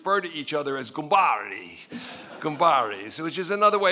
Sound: speaking in foreign language

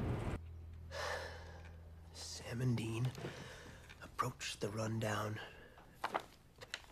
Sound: sighs

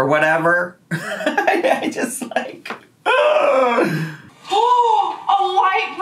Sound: laughs; groans; gasps

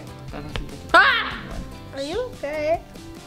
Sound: yelling

